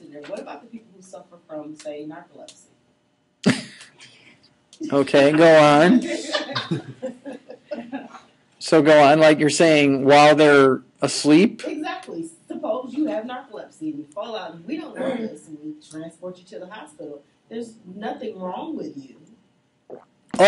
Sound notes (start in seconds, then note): 3.4 instructor laughing; 5.8 students laughing